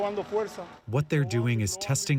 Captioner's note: through translator